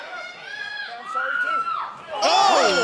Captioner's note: cheers and applause